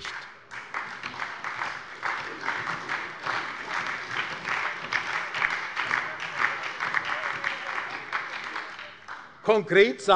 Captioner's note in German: Beifall bei der SPD und bei der LINKEN